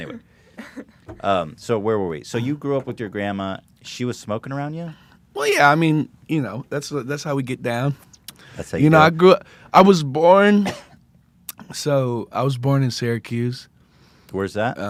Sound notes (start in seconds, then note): 10.5 cough